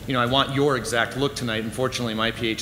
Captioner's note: none